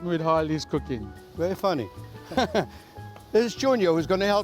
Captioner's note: laughs